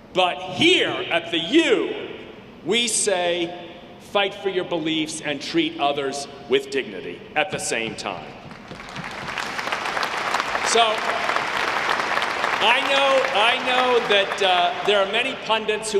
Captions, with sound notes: But here at the U, we say fight for your beliefs and treat others with dignity at the same time. (audience clapping) So I know that there are many pundits